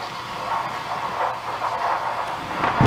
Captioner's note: thunder clap